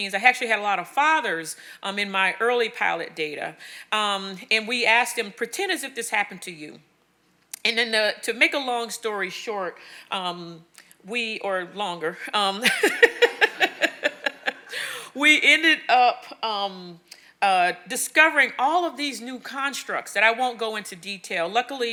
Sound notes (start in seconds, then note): 12.6 laughing